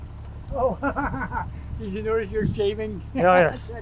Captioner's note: laughs